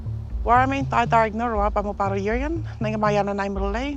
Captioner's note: woman speaks indigenous language